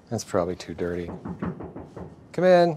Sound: knocking

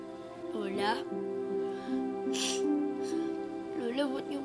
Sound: sniffs

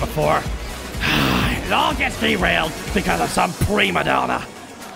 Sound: sigh

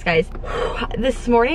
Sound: exhales loudly

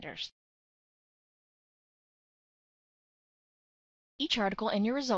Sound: pause

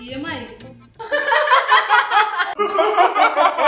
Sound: laughing

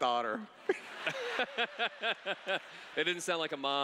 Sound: laughs

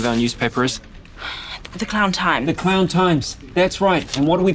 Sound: sighs

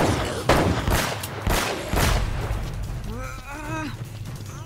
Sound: none

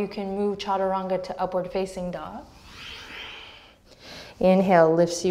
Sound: deep breath

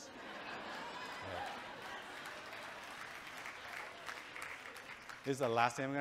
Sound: audience cheering and clapping

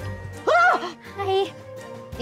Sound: screaming

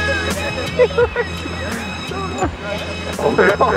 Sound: laughing

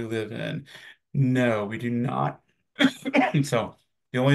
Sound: coughs

